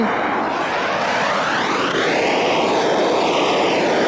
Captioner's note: blowtorch whooshing